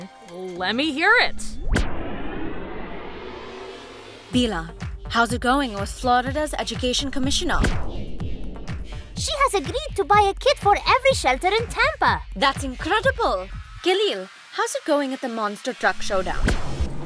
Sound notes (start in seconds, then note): 1.5 engine whirls